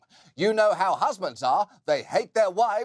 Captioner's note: in old timey voice